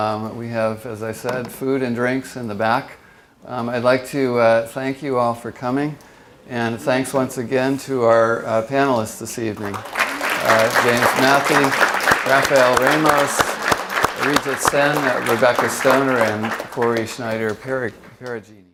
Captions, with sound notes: We have, as I said, food and drinks in the back. I'd like to thank you all for coming. And thanks once again to our panelists this evening. (audience applauds) James Mathy, Raphael Ramos, Arijit Sen, Rebecca Stoner, and Kori Schneider Peragine.